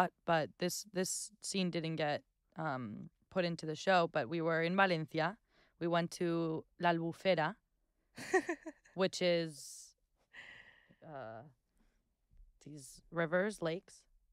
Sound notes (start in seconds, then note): 8.2 laughing